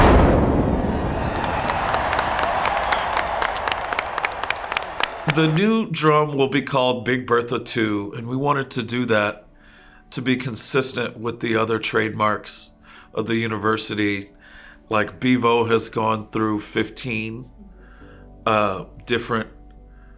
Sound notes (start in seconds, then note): 0.0 drum bangs; 0.6 crows claps and cheers